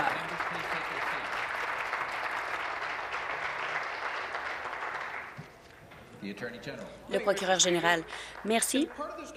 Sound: applause

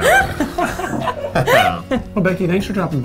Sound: laughing

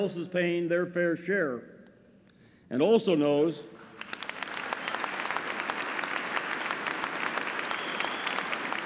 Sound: applause

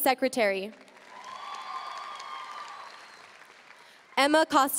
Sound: audience cheering and applauding

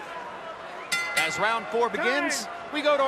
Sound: bell rings

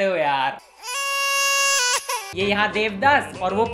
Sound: child cries in autotune

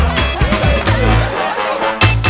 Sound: laughter

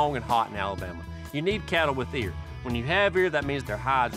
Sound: none

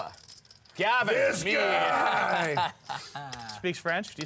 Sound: laugh

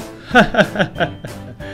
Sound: CBS Laugh

